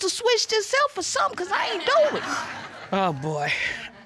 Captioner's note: scoffs